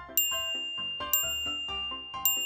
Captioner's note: ting!